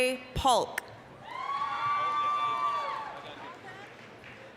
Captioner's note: applause, cheering